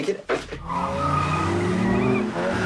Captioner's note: tires screeching